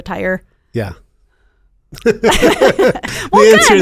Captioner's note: both laughing